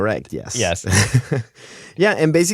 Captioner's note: laughter